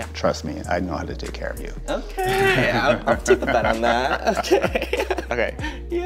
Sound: laughs

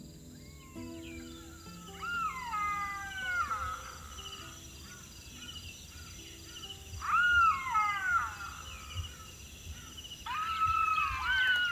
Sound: jackals Calling

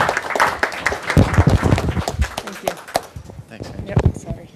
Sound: applause

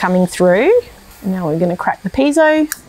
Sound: hissing sound

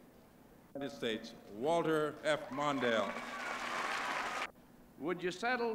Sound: applause

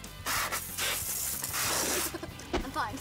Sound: none

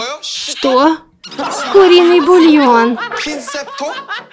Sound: laughing

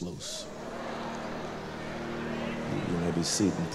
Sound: crowd murmur

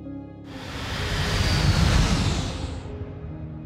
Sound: engines roaring

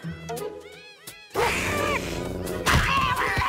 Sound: hissing, growling

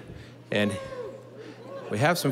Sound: audience cheering

